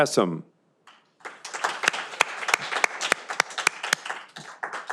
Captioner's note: audience applauding